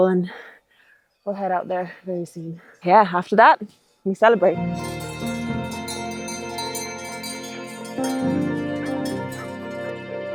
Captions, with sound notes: and we'll head out there very soon. Yeah, after that we celebrate. (gentle music) (sheep bells clanging)